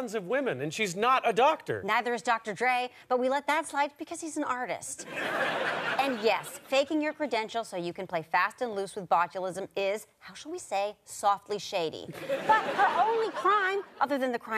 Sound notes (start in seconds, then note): 5.0 audience laughter